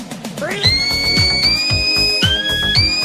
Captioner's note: upbeat music; screams